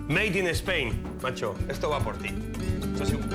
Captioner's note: both speaking Spanish